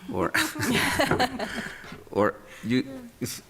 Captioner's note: laughter